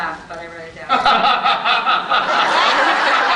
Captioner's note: laughs